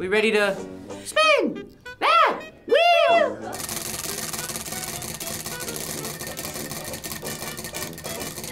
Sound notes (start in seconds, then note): 3.6 wheel rattling